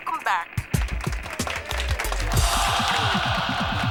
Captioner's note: applause